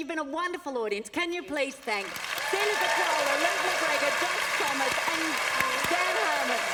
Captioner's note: applause